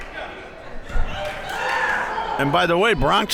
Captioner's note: crowd members shouting